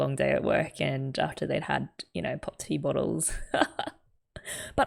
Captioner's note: laughs